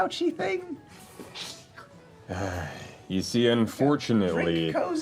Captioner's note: sighs